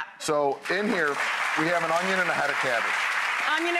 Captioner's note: audience cheers